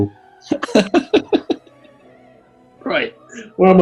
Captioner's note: laughing